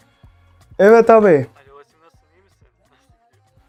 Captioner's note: he’s speaking Turkish